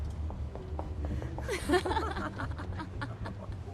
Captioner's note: women giggling